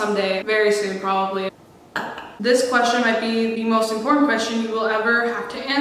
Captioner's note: burps